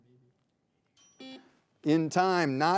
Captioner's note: bell rings